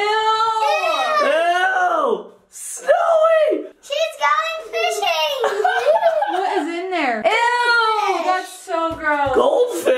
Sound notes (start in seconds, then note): 0.0 people exclaiming; 5.4 people laughing